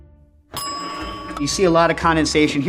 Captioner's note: bell pings